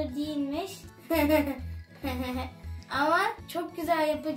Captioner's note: laughing